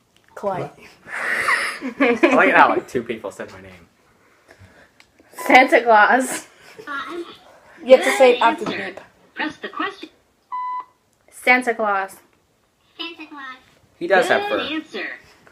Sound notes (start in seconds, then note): 1.4 laughter